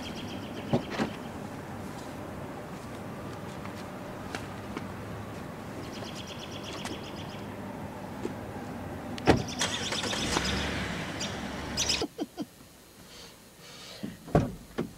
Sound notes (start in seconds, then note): 0.0 birds chirping; 9.4 engine starts; 12.0 Kerri laughing